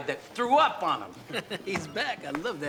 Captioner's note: chuckles